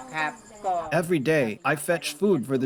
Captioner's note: through translator